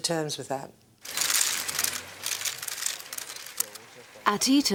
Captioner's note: camera shutters clicking